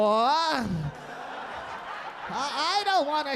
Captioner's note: audience laughing